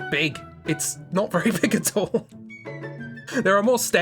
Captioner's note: laughs